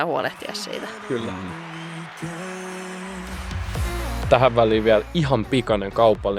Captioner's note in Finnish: Aplodeja